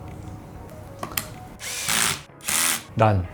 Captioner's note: more screwing, but now with a drill